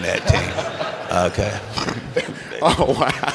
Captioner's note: laughter